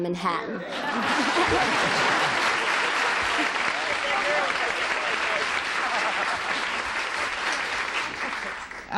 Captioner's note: applause